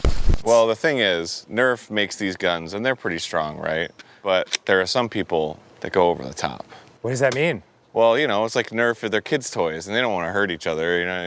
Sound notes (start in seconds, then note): none